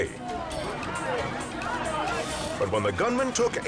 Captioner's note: customers chants